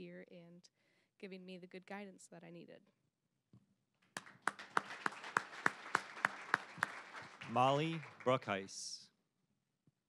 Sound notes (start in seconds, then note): 4.1 applause